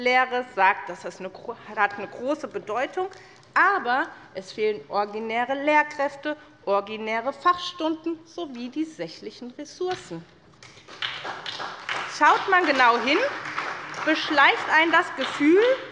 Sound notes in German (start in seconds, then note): 10.6 Beifall bei der SPD